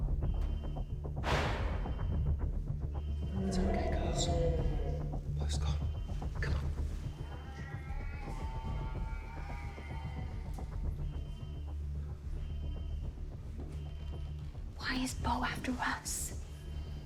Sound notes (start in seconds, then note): 0.0 alarm blaring; 0.3 dramatic music; 7.8 dramatic music; 11.7 alarm blaring; 12.9 dramatic music